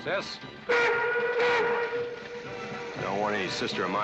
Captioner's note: train whistle blowing